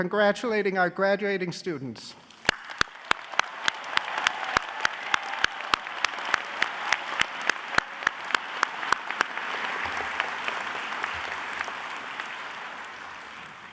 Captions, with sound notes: congratulating our graduating students. (applause)